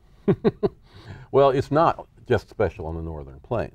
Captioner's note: laughing